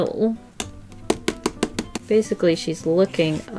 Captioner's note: pencil tapping on sketchbook